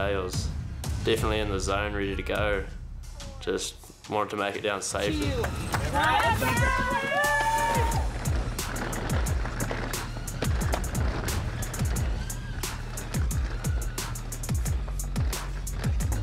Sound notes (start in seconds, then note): 5.6 all cheering; 8.3 bright upbeat music